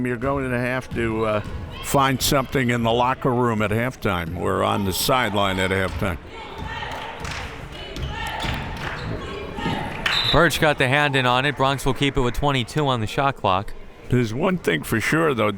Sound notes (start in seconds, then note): 6.0 crowd members chanting; 10.0 whistle tweeting